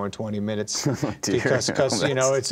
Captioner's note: laughter